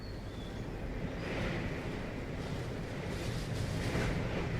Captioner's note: wind blowing